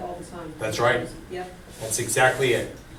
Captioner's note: voiceover